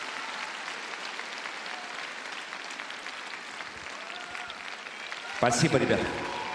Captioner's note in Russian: аплодисменты